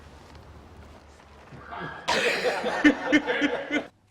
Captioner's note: Colin and the crew laugh